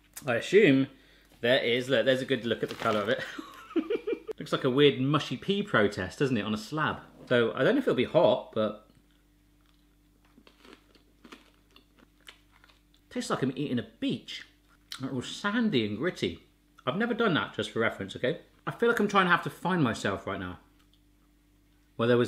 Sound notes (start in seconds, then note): 3.6 laughs; 10.1 crunching